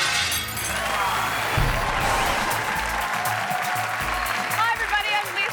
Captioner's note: audience cheering